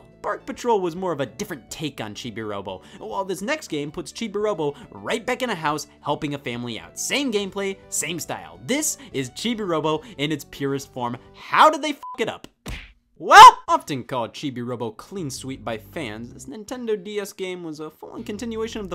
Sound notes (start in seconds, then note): 12.3 beeps; 13.2 exclaims